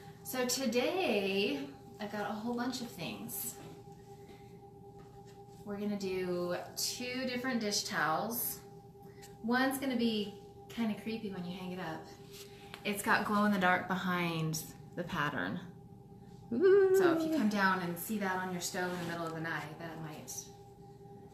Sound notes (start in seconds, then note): 16.5 wails like a ghost